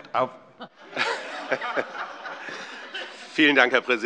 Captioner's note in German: Vereinzelte Heiterkeit